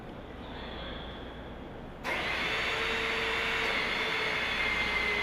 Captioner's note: sounds of machinery